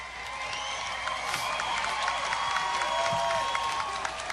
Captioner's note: audience cheering